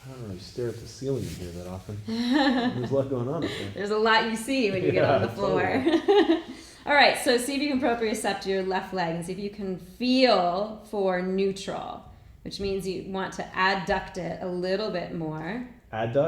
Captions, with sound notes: - I don't really stare at the ceiling in here that often. There's a lot goin' on up there. - There's a lot you see when you get on the floor. (chuckling) Alright, so if you can propriocept to your left leg, and see if you can feel for neutral, which means you want to adduct it a little bit more.